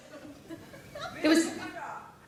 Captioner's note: audience giggle